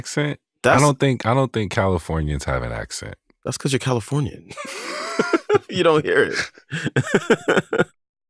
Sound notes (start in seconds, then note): 6.5 laughter